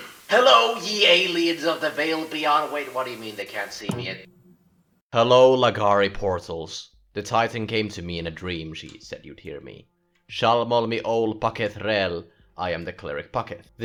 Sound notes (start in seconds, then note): 3.8 TV turning on